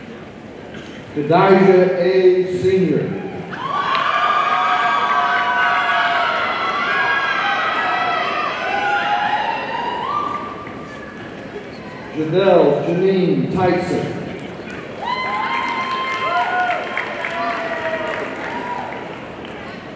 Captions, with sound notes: Kadijah A. Senior, (audience cheering and applauding) Judelle Janine Tyson, (audience cheering and applauding)